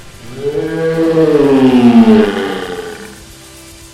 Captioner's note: loud yelling